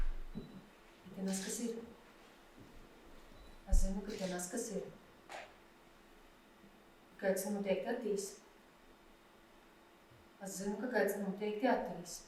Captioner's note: speech in Latgalian